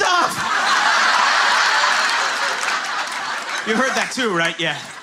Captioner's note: laughter